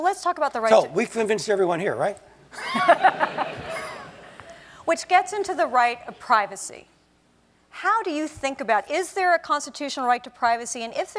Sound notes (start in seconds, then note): 2.6 laugh